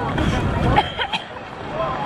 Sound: coughing

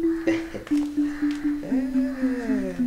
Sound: chucles

